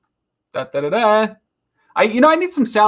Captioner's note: gasps